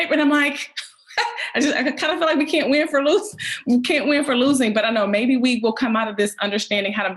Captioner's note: laughs